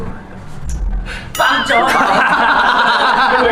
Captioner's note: laughs